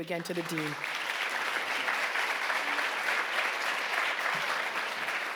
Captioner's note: audience applauding